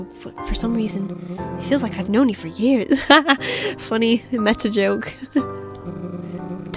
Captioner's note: laughs